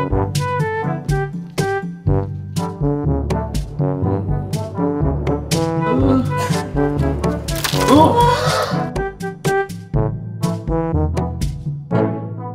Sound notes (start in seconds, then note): 6.1 cries